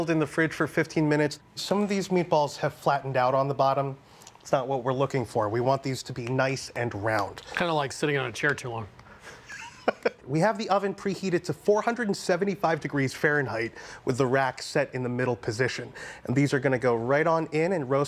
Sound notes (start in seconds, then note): 9.2 chuckles